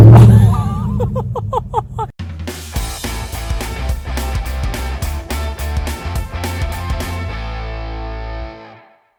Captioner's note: loud engine starting